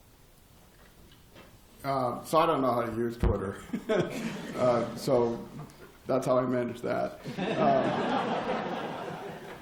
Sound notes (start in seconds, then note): 3.6 laughter; 7.2 laughter